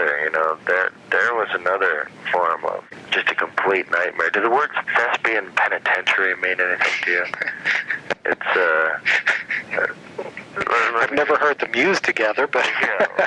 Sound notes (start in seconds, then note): 8.9 laughter